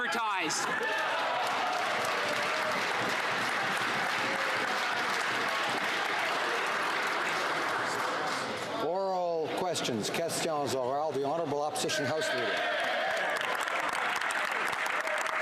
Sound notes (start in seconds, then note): 3.7 some Applause; 12.5 speaking French